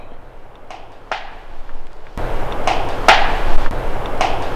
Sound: wood tapping

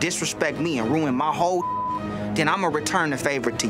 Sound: beep

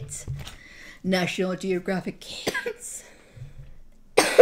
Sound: cough; cough cough

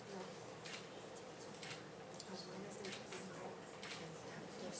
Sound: shutter clicks

